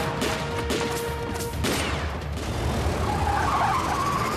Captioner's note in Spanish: continúa el tiroteo